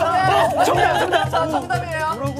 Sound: crying

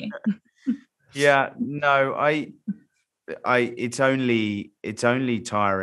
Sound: laughs

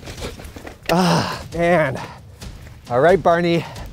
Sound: groans

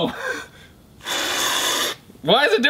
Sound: spray can hissing

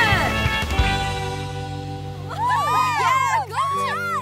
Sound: girls cheer

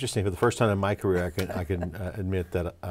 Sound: laughs

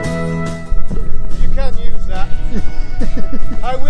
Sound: laughs

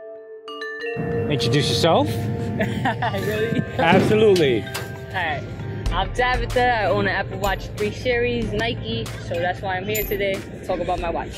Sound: laughing

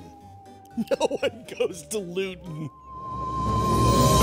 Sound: laughing

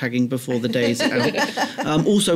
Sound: laughter

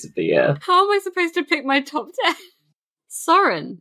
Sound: laughing

